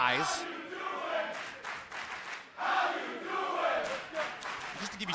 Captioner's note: fans chanting